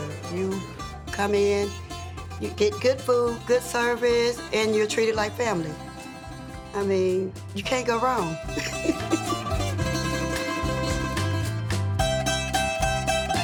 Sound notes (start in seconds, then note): 8.4 laughing; 10.0 upbeat music ending